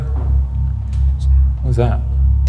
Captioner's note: light thumping